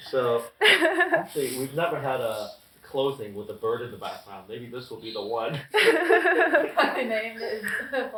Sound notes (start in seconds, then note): 5.6 laughing